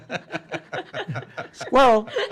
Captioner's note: laughing